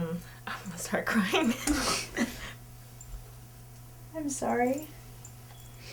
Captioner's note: chuckles softly